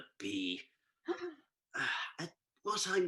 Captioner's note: gasp